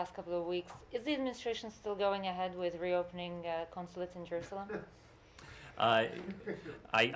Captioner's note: laughter